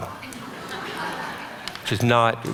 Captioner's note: audience laughter